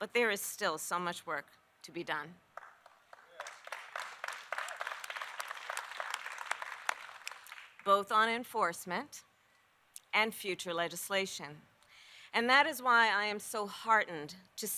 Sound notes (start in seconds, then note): 2.5 applause